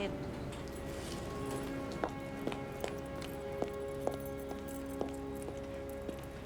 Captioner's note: tense music; heels clicking